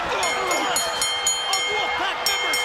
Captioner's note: bell ringing